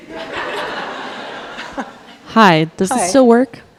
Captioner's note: audience laughing